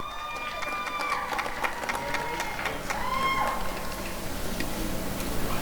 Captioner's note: applause and cheering